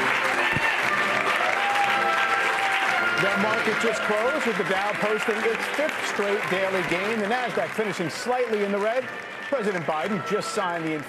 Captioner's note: applause